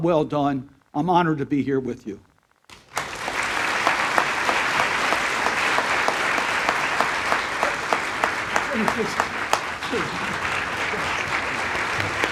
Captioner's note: applause